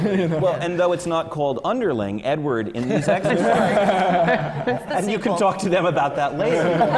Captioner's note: laughter; laughter